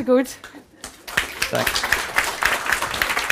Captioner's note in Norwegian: Applaus